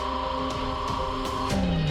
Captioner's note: radar beeping